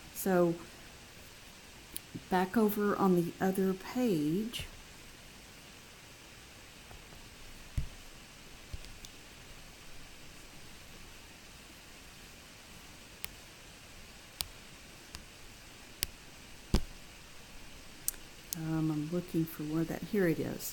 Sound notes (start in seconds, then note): 4.6 long pause